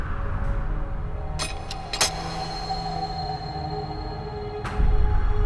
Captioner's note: clock ticking